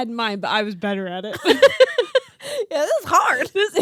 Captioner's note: laughing